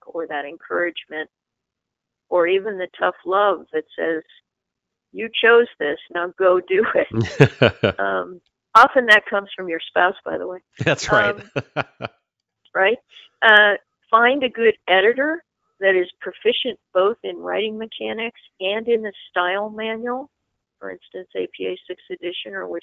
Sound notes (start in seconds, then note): 7.1 both laugh; 10.8 laughs